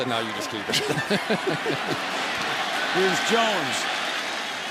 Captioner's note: laughs